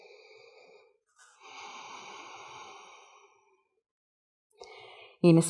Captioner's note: inhale-exhale